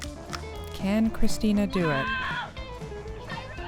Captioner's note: scREAMING FAINTLY